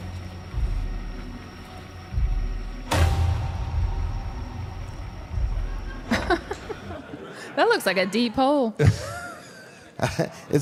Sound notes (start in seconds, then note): 0.1 dramatic music; 5.8 Michelle laughs; 8.9 AJ laughs